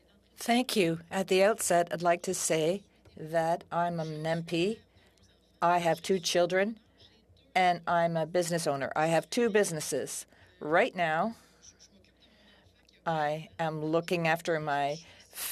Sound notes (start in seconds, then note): 6.1 speaking French